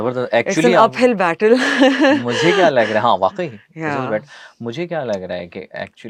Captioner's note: laughs